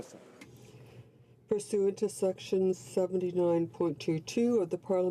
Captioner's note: speaking French